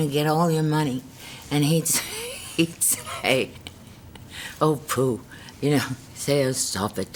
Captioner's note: laughs